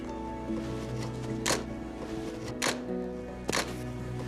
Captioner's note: camera clicking